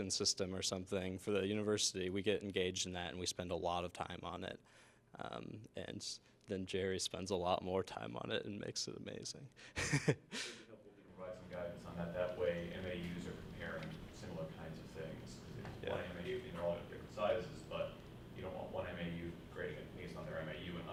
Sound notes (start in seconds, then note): 9.7 laughter; 16.0 speaks off microphone